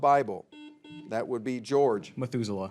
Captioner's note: buzzer beeps